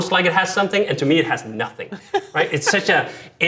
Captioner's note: laughing